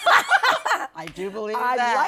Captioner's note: laughter